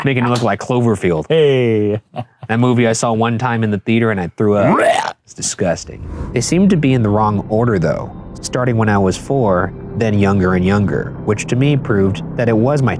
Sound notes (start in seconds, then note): 4.6 Shane gagging